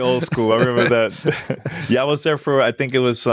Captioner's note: laughter